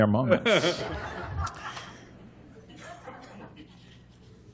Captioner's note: laughter